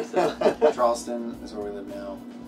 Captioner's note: laughing